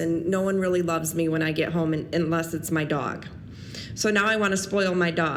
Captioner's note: none